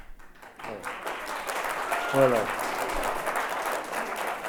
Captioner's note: audience applauds